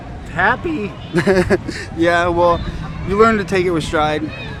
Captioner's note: laughing